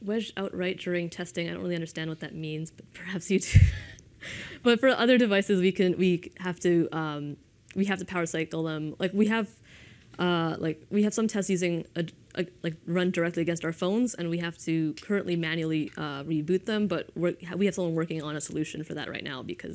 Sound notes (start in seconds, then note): 4.0 laughs